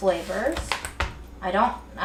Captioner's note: wood tapping